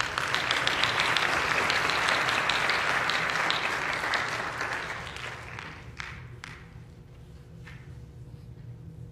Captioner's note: applause